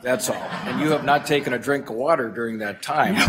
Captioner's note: laughter